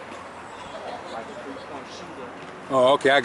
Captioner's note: children laughing